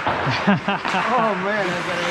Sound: laughter

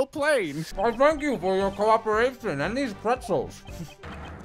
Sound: eating

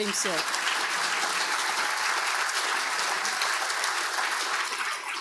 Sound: audience applauding

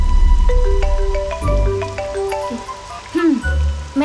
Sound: mobile phone ringing

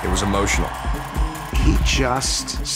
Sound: crowd cheering

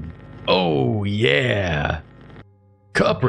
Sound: grizzled voice

